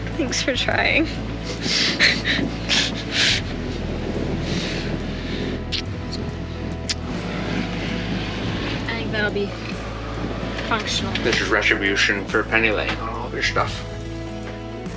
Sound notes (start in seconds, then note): 1.4 chuckles